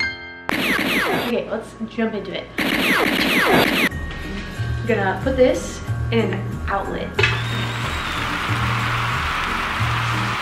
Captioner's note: pew pew